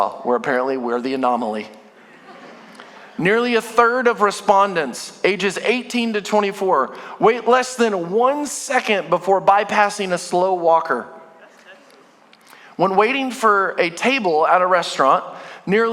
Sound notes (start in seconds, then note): 2.0 congregation laughing